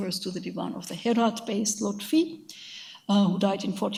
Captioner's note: speaks in a foreign language